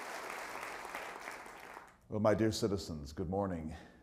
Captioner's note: applause